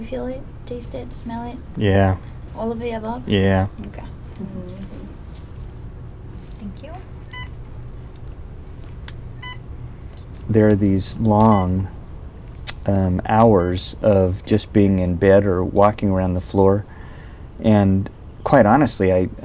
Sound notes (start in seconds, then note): 9.3 beeping